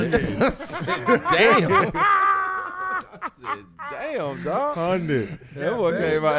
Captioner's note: laughing